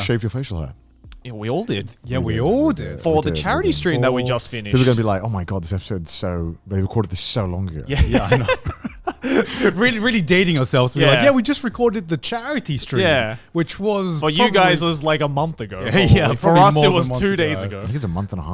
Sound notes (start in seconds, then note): 7.9 laughs